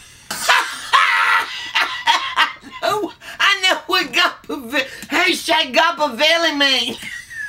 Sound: laughs

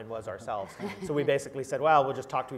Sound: laugh

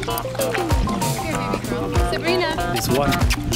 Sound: kissing sounds

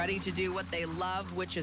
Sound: nats from dogs

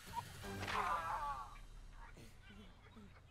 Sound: groaning; chuckles

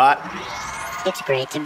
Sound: crowd cheering

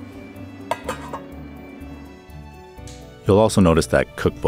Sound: lid clattering

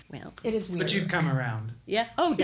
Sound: laughs

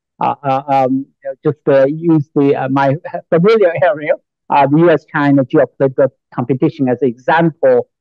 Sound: laughs

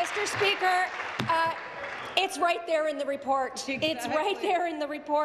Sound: applause

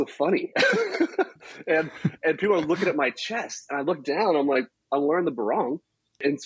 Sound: laughs

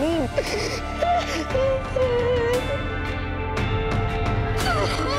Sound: crying

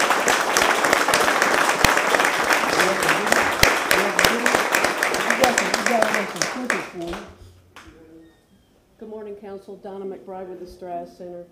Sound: applause

